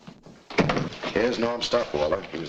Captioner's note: door thuds shut